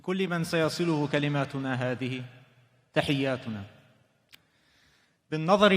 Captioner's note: speaking foreign language